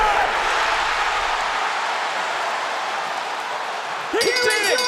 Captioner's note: audience cheering